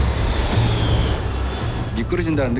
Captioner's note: engine roars; speaking foreign language